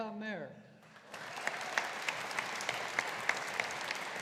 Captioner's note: audience applauding